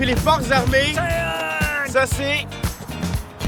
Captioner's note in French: coup de sifflet